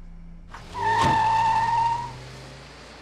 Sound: tires screeching

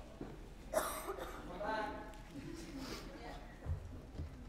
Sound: audience chuckling

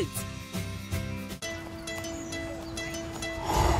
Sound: man exhales

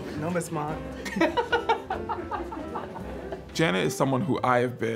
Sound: laughter

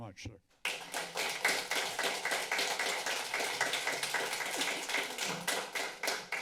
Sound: applause

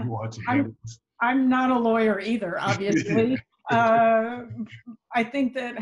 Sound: laughs

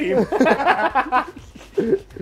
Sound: laughter

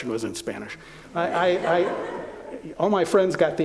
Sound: laughter

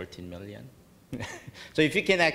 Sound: laughing

